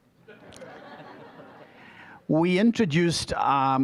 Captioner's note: audience laughing